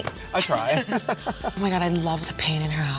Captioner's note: laughs